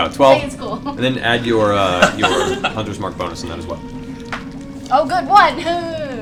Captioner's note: laughs